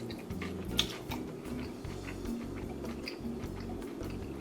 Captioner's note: chomping